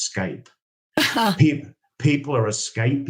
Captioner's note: chuckles